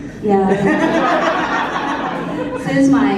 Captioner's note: laughter